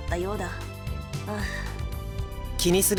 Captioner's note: pensive breath